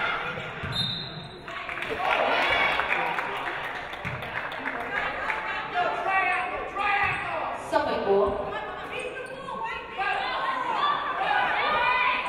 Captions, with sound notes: (referee blows whistle) (audience applauding) Suffolk ball.